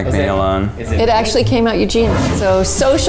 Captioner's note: air whooshing